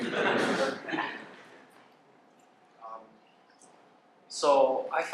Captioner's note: laughter